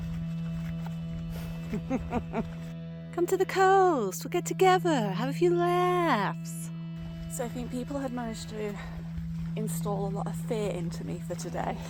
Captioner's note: laughs